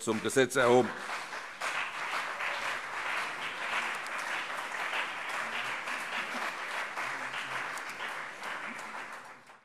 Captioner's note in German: Beifall CDU und BÜNDNIS 90/DIE GRÜNEN